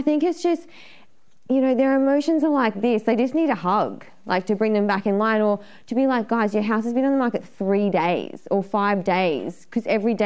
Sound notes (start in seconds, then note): none